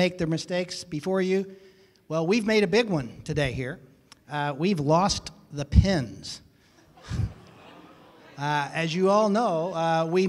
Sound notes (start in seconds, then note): 7.0 murmuring